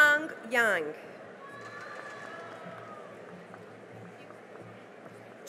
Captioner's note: cheering and applause